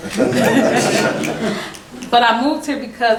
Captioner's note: laughing